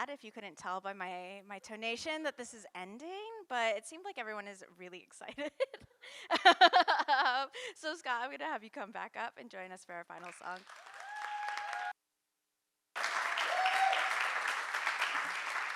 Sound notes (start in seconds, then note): 7.2 laughs; 11.1 audience cheering and applauding